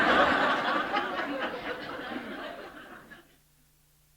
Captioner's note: laughter